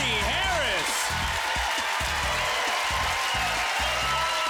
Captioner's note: applause